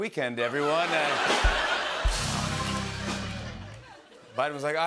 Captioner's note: laughter